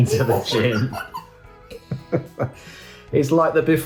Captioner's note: both giggle